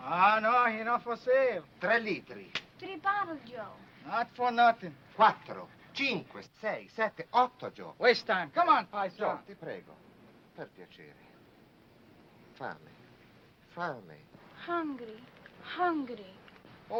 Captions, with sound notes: - Ah, no, he no for sale. (speaking foreign language) - Three bottles, Joe. - Not for nothin'. (speaking foreign language) Waste time. Come on, paisan. (speaking foreign language) - Family, family. - Hungry, hungry.